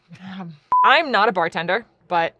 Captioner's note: beep